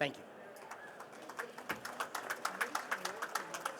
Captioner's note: participants applauding